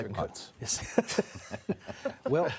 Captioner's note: panel laughing